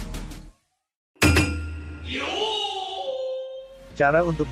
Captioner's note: kabuki yooo sound